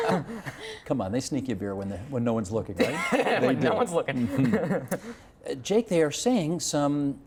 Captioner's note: laughter